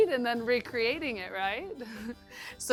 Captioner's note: chuckles